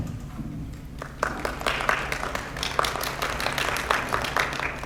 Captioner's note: audience claps